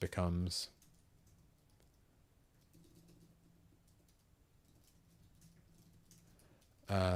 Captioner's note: silence